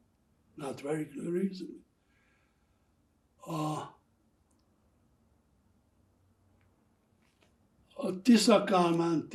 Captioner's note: pauses 6 seconds